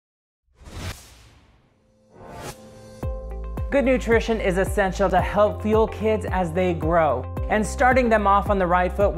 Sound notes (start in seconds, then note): 0.6 air swooshing; 2.9 upbeat music